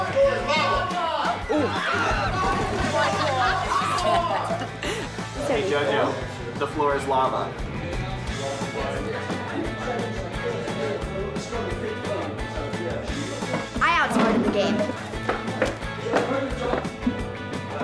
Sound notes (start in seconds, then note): 1.4 screaming and laughing; 15.7 tapping